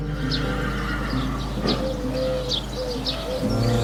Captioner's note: soft whinny